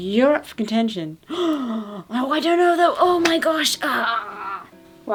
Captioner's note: gasps